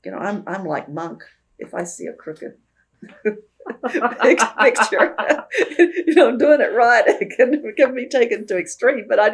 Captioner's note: laughs